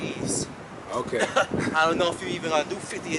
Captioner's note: laughs